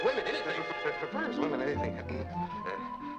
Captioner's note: stammers